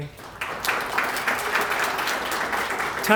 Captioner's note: applause